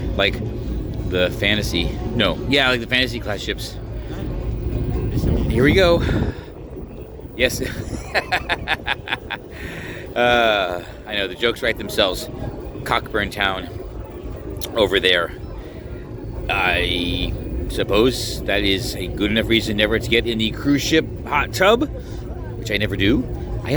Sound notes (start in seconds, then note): 7.6 laughing